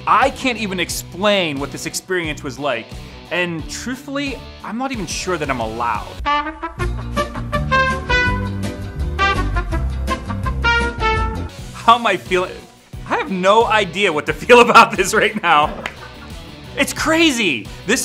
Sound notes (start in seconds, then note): 11.6 upbeat music; 14.6 laughing; 15.7 claps